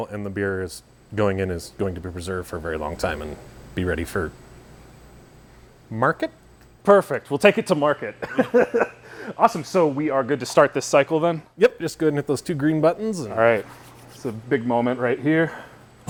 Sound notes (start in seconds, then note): 8.2 both laughing